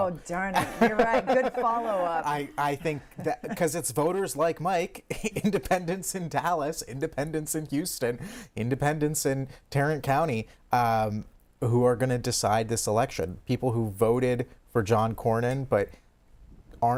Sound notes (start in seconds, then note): 5.1 laughter